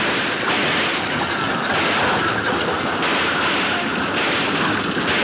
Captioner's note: gunshots banging